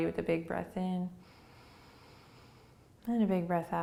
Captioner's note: inhaling